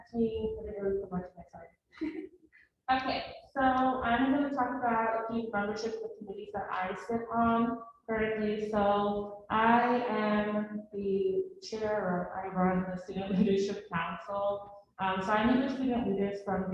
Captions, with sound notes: Actually, I'm gonna move a little more to my side. (laughs) Okay, so I am going to talk about the membership of committees that I sit on currently, so, I am the Chair, or I run the Student leadership Council so I meet with student leaders